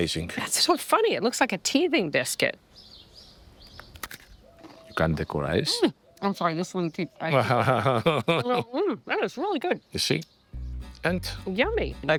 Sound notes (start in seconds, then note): 2.9 birds chirping; 3.8 biscuit crunching; 7.3 laughing